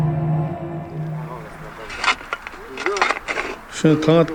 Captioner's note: man speaking foreign language